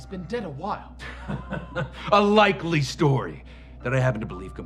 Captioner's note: chuckles